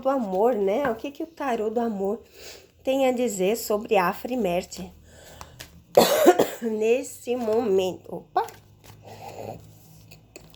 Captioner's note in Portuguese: tosse